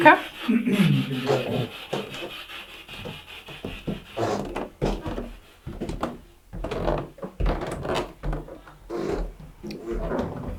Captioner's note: footsteps in the background